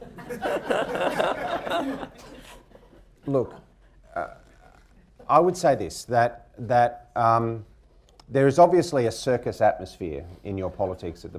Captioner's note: laughter